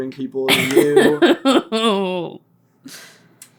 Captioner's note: so much glorious laughter